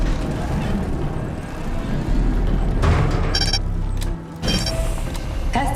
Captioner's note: beeping